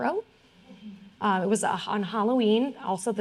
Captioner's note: audience murmuring